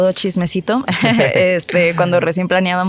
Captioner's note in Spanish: Se ríen